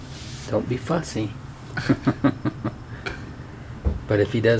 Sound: laughs

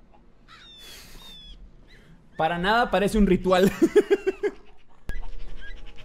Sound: in Spanish; laughs

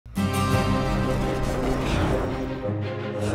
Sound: spaceship engine

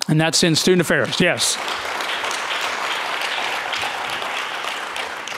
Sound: audience clapping

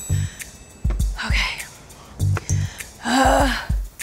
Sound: groans

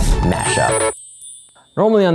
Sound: bells gently ringing

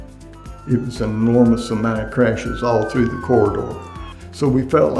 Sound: ambulance sirens

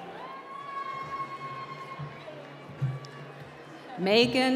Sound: applause

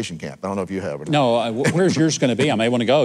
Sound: laughing

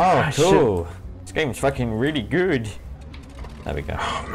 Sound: mockingly

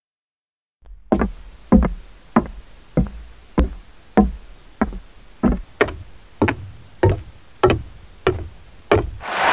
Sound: awkward Low Budget Silence; Foot steps of Spy; cheering

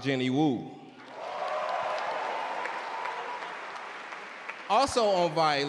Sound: audience cheer and clap

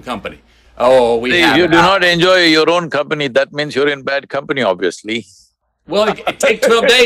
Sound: laughs

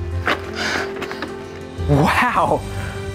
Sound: whimsical music; waiter breathing heavily

